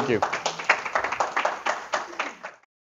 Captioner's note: audience Applause